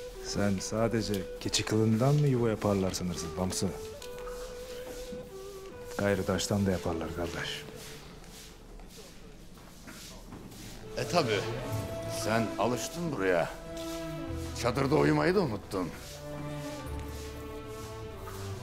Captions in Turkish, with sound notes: Sen sadece keçi kılından mı yuva yaparlar sanırsın Bamsı? Gayri taştan da yaparlar kardeş. (Süpürge sesi) E tabii, sen alıştın buraya. Çadırda uyumayı da unuttun. (Süpürge sesi)